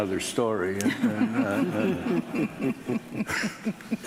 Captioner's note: laughing